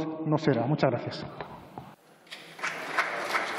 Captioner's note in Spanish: Aplausos